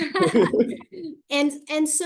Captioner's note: laughter